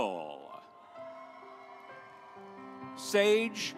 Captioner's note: audience applauds